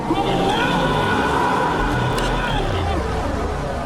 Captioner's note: Steven shouting